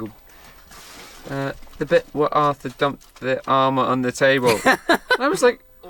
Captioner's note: English accent; Bradley laughs